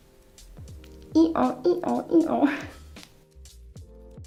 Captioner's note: laughs